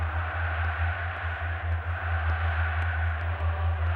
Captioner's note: cheering